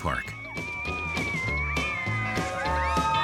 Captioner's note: hollers